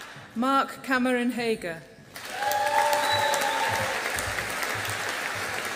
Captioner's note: audience applauding